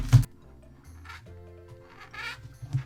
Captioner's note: marker squeaking